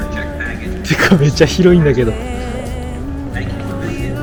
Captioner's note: excited